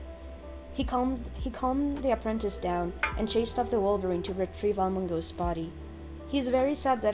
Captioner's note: clank